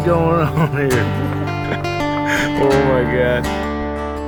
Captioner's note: laughing